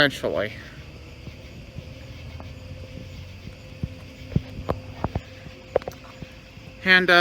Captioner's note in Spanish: Charla indistinta